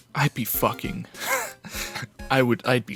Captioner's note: wheeze